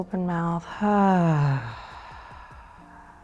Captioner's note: sighs